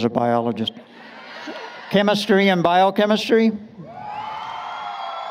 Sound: brief laughter; applause, Cheering

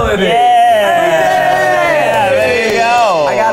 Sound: cheers

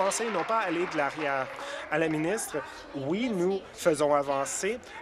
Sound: applause

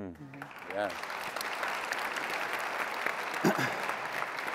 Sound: audience clapping

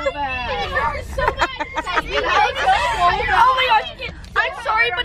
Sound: girls laughing and screaming

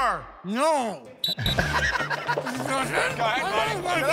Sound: whistle blows

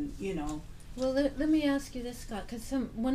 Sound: voiceover

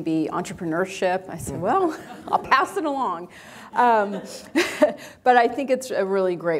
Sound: chuckles

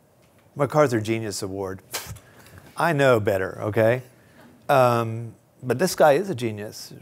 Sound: scoffing

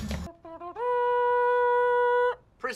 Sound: mouth trumpet noise going ‘do do do dooooo’

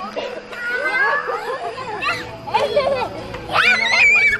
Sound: giggling

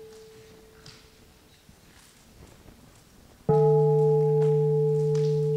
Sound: bell

